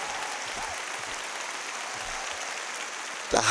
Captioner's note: applause